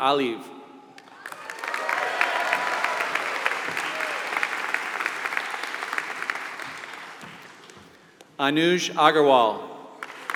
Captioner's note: applause; applause